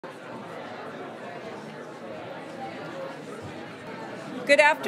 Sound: audience murmuring

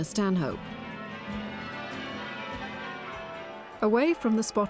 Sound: bells ringing

